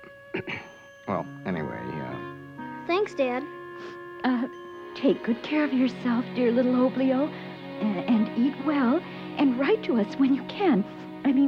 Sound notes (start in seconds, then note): 0.3 clears throat; 3.7 sniffles